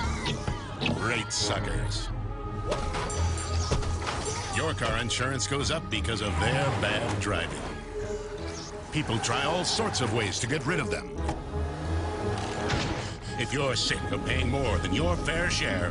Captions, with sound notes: [ SCREAMING ] RATE SUCKERS! [ BELL DINGING ] YOUR CAR INSURANCE GOES UP BECAUSE OF THEIR BAD DRIVING. PEOPLE TRY ALL SORTS OF WAYS TO GET RID OF THEM. [ DRIVER PANTING ] IF YOU'RE SICK OF PAYING MORE